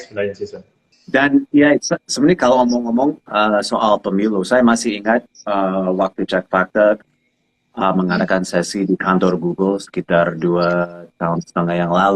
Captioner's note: non-english speech